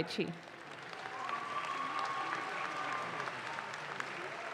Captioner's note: audience claps